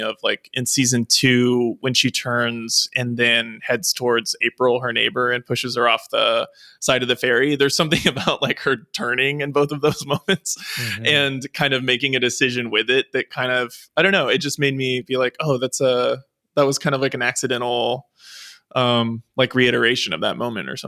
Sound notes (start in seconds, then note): 7.9 chuckles